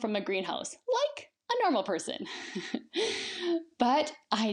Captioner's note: laughs